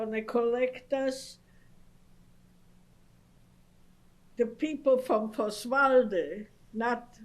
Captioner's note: pauses for 3 seconds; non-english